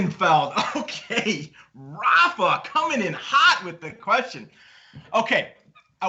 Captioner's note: laughing